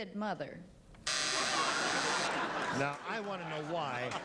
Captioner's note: buzzer; audience laughs